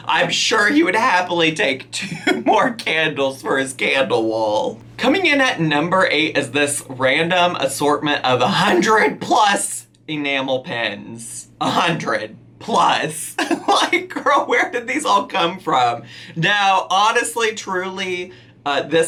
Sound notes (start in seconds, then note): 13.4 laughing